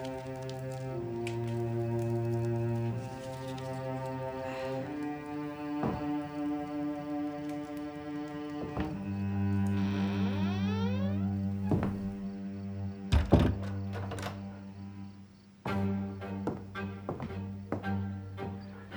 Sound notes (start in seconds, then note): 9.8 door creaking; 15.6 upbeat violin music